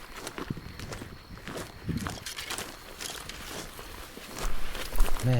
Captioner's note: insects chittering; wind rustling